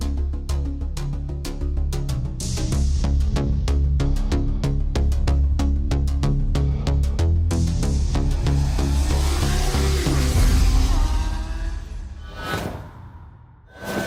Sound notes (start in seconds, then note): 8.4 car zooming